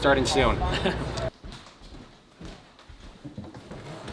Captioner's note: laughing